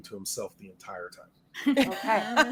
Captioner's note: all laughing